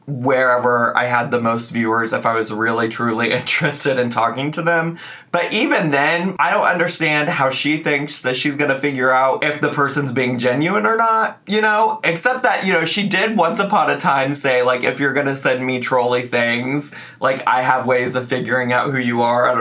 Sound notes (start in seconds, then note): none